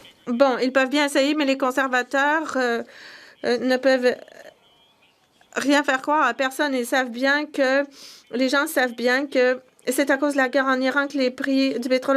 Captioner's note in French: voix de l'interprète